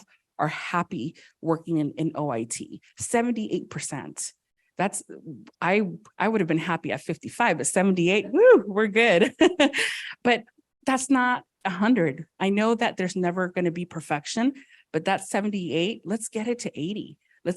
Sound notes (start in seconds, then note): 9.2 laughs